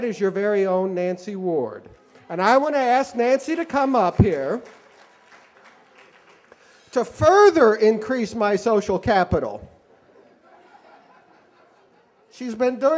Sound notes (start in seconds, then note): 5.5 applause; 9.9 laughter